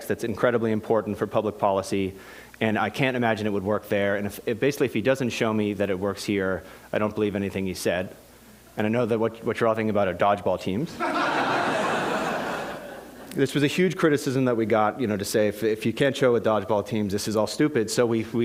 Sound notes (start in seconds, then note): 10.9 laughter